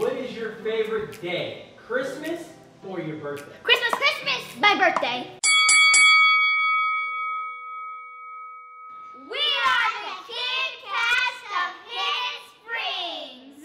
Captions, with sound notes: What is your favorite day, Christmas or your birthday? Christmas, Christmas my birthday! (Ding Ding Ding) We are the kid cast of Hidden Springs.